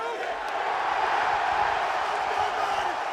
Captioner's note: crowd cheers